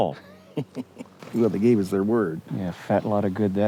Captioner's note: chuckles